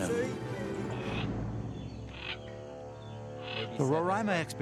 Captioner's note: bird chirping